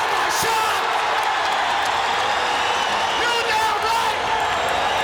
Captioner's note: audience cheering